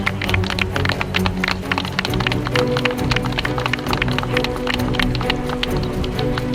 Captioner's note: people applauding; suspenseful music